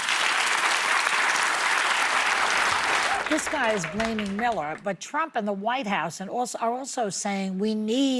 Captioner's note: cheers and applause